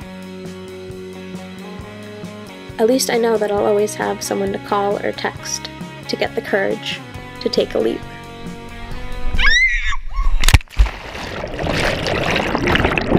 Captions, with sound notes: At least I know that I'll always have someone to call or text to get the courage to take a leap (screaming)